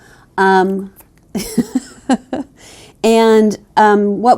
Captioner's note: laughs